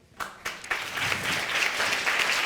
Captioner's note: audience applauding